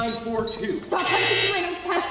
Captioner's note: incorrect passcode buzz